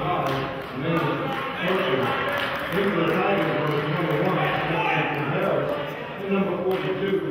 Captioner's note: murmurs; clapping